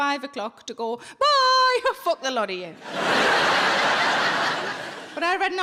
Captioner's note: audience laughing